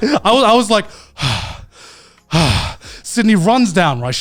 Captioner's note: panting